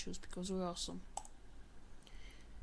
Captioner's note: mouse click